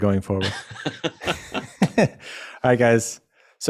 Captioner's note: laughs